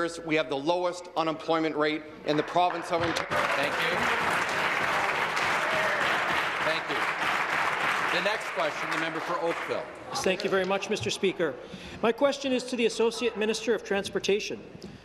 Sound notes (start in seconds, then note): 7.3 applause